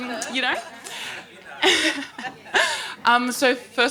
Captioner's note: crowd laughing